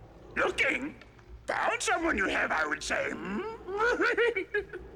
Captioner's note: chuckles